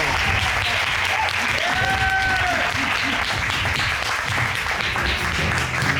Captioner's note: audience cheering, applauding